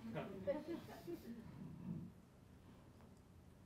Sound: laughing

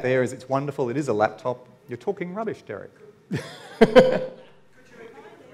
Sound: laughs

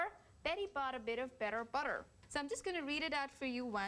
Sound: normal voice

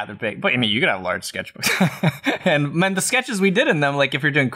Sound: laughter

